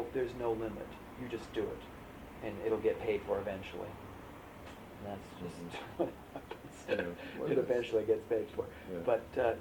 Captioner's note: laughs